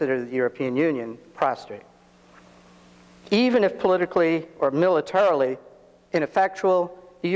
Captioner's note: none